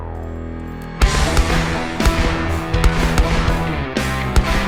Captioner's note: gunshots